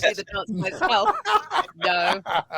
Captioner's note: laughter